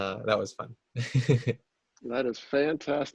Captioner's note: laughter